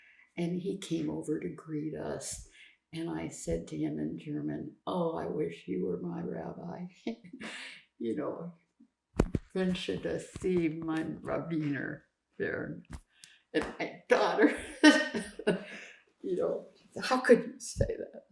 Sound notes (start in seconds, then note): 7.9 german; 8.1 laughing; 16.3 laughing